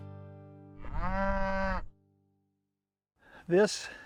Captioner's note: cow mows